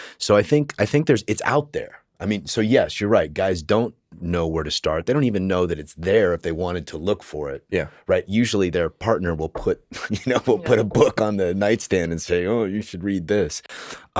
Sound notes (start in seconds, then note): 9.9 chuckles